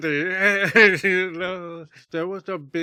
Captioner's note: laughs